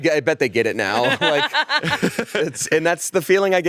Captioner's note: laughs